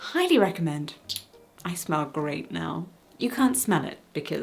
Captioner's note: perfume spraying